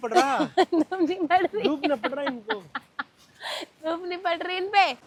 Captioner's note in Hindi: हंसी